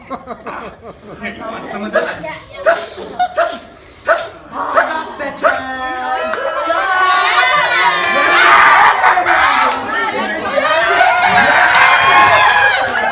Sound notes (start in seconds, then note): 2.6 sneezing